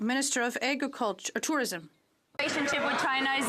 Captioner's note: some Applause